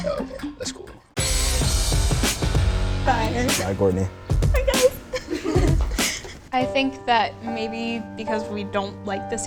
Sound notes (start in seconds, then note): 1.1 dramatic music; 4.5 girls laughing